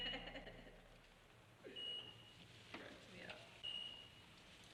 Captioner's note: woman laughing; machines beeping